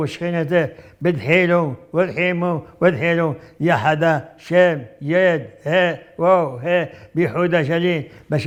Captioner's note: reciting